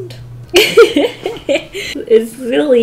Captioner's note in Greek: Γέλια